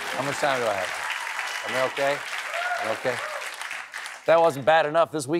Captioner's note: applause